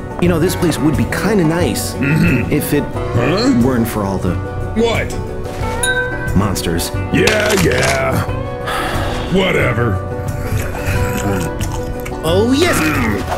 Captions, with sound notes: You know this place would be kinda nice... Mhmm. ...if it... Huuh? ...weren't for all the... What? ...monsters. Yeah, yeah. *sigh* Whatever... OH YES!